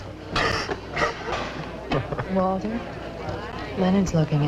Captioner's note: coughs